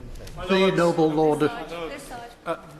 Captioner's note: chatter from the crowd